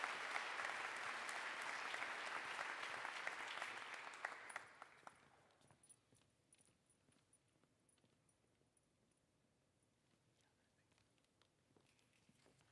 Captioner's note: applause